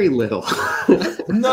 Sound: laughs

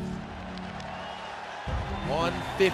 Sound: dramatic music; audience cheering and clapping

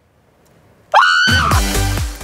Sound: screams; upbeat music

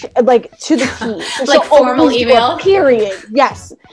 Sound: laughs

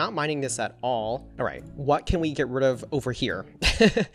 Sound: laughs

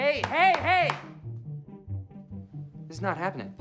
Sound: clapping

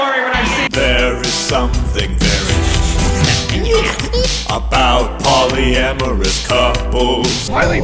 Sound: cryptkeeper noises

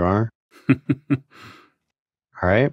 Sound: chuckling

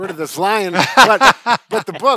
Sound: laughing

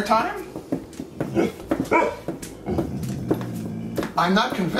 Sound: barking and growling

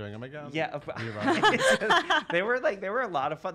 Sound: laughter

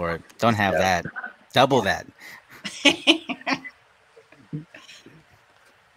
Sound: laughing

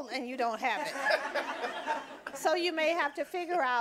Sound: audience laughing

